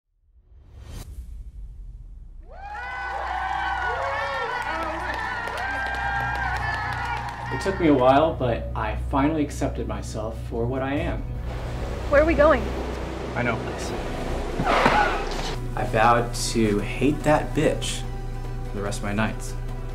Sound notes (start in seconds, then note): 0.0 ambient Music; 2.4 cheering; 14.4 tires Screech